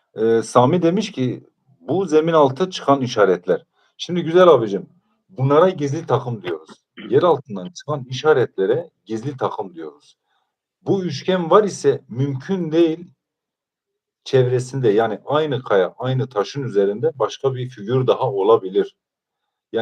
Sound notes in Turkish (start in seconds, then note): 6.4 boğazını temizler